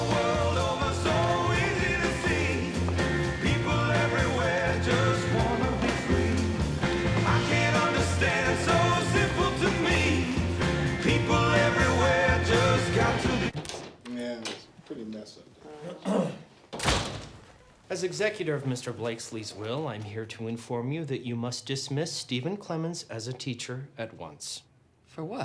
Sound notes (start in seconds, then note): 15.8 attorney clears throat